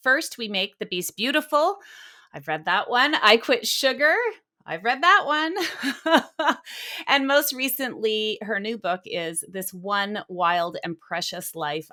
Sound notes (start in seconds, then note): 5.6 laughing